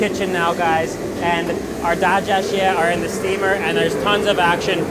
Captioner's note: foreign language